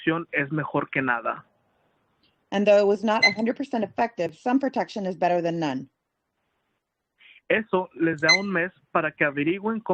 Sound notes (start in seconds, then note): 2.1 speaking Spanish